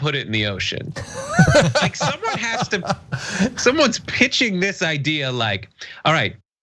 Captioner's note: laugh